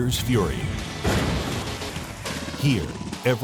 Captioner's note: boom